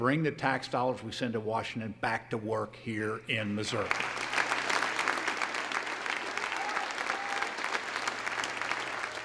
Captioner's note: applause